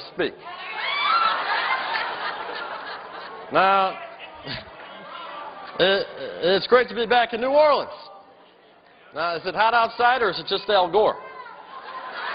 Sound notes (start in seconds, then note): 3.2 laughter